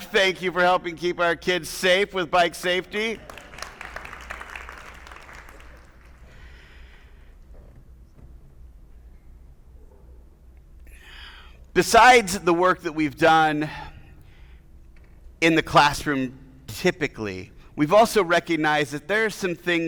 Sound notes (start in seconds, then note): 3.1 attendees applauding